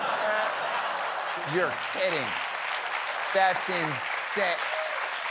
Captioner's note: applause